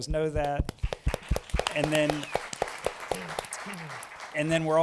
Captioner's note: applause